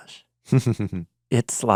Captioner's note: laughing